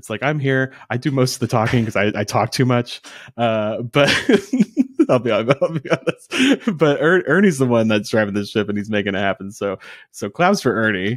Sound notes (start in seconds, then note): 3.3 laughing